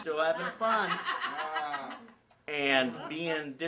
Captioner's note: laughing